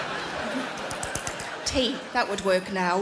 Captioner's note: Sarah smacking lips